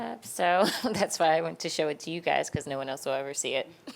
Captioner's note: laughs